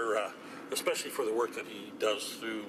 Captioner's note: speaking French